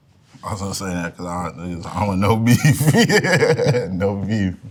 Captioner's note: laughs